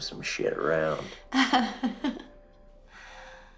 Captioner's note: chuckling